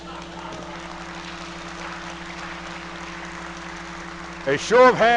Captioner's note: audience applauding